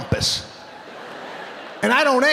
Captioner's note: audience laughing